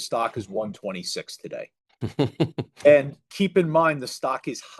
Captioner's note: laughs